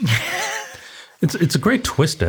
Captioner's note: laughs